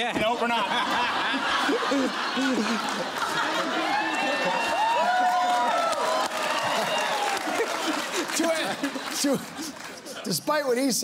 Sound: laughter

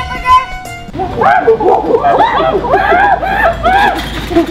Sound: gorilla sounds

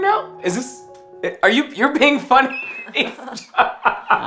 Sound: laughing

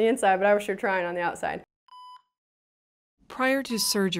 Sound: machine beeping

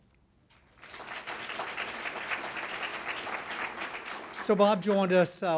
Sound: clapping

